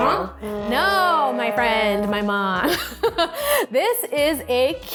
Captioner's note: laughs